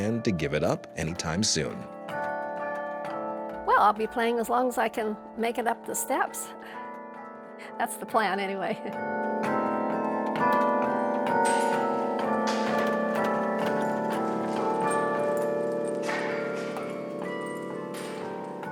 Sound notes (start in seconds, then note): 2.1 bells ringing; 8.6 chuckles; 10.2 carillon continues